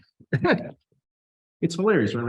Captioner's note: trustees chuckle